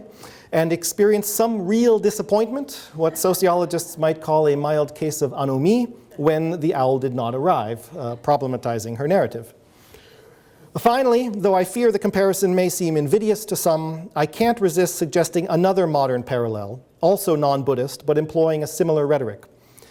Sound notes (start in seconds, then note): 9.2 audience chuckles